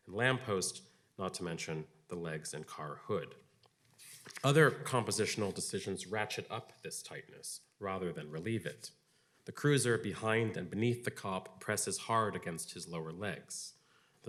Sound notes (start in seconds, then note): none